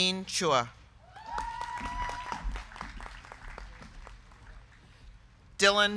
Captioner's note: crowd cheering; crowd clapping